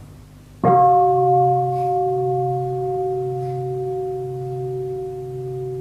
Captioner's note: bell